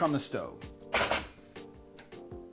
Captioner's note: banging; mellow music